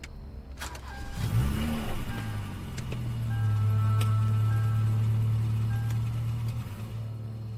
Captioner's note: car beeping; engine revving